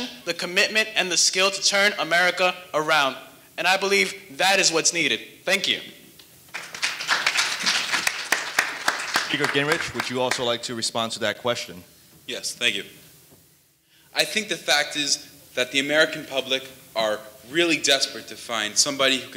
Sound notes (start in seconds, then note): 6.5 audience applauding